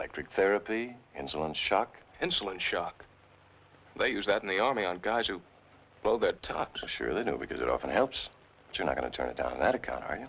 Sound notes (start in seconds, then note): none